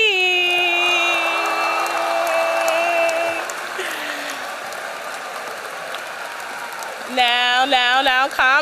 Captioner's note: applause